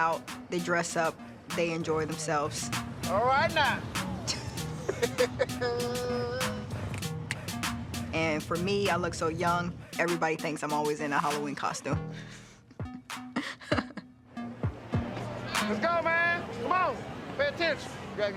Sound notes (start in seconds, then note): 4.2 both laugh; 13.2 chuckles